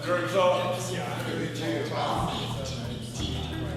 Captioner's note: inmates chattering indistinctly